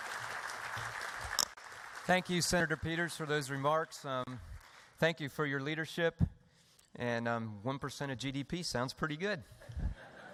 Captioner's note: applause